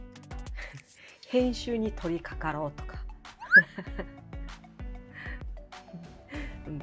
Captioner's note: laughs